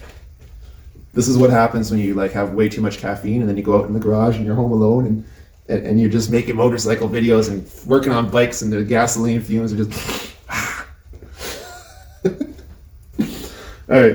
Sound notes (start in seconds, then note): 13.1 sniffs